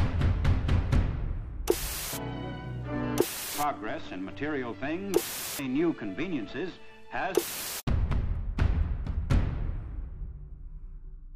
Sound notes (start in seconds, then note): 1.7 television static buzzes; 2.1 gentle music; 5.1 static buzzes; 7.3 dramatic music; 7.3 static buzzes